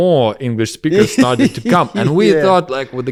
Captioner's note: laughs